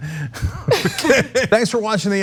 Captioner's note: laugh